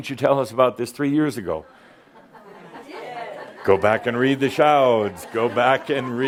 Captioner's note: someone says “You did” and a few chuckles